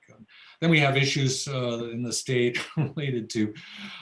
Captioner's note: laughs